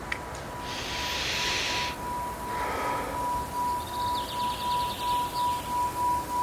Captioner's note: bowl ringing; runner sighing